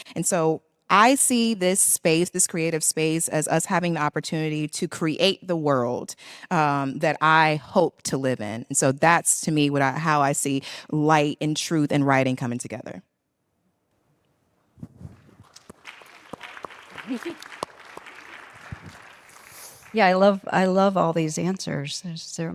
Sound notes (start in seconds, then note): 15.1 audience claps